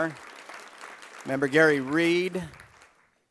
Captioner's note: applause